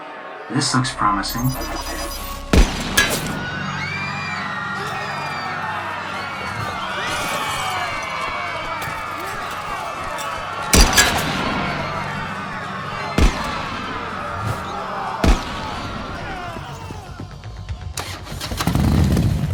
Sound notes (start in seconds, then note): 1.4 GUNSHOT richochets; 4.2 crowd screams and dishes break; 18.0 motorcycle revs up